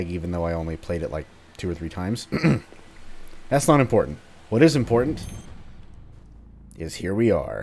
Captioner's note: awkward throat clearing